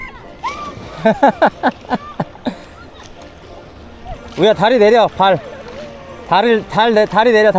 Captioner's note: laughs